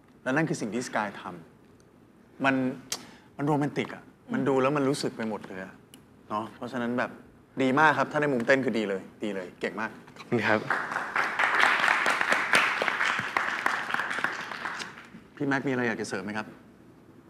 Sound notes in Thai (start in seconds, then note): 10.4 เสียงปรบมือ